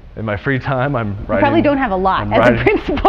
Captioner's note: laughing